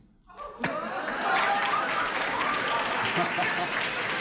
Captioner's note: applauding